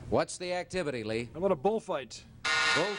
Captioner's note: buzzer beeps